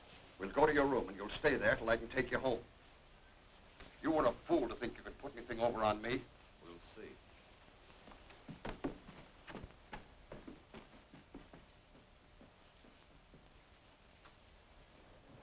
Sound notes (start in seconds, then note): 8.0 footsteps thudding; 8.1 rain pattering